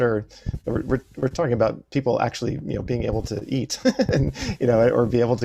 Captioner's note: laughs